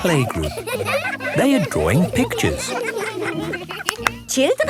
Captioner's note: laughter